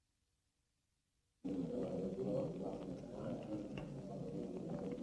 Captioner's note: crowd murmuring